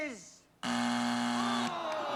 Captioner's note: buzzer